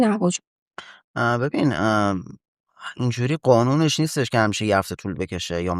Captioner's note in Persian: گلویش را صاف می‌کند